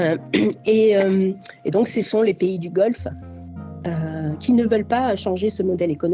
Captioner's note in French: raclement de gorge